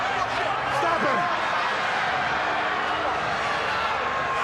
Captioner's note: crowd chattering